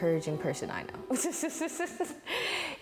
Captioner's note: laughs